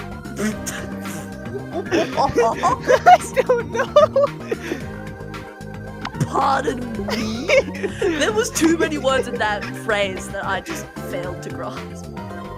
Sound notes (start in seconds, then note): 0.4 snickers; 0.4 laughing while talking; 2.9 both laughing; 6.2 laughing